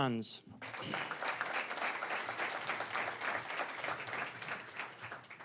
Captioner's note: applause